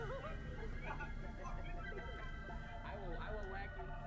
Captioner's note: la gente se ríe